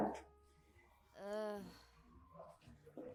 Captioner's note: A feed up sigh from Keo